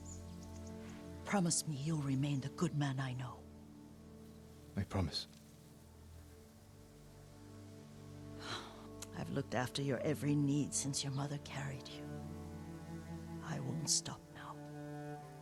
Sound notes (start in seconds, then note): 8.4 sigh